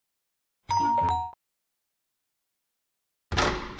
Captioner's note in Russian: дверной звонок